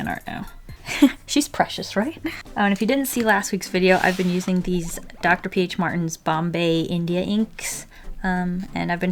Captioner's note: laughs